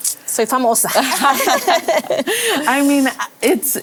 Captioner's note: risas